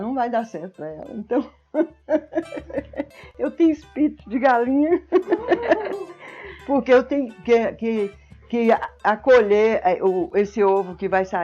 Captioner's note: laughs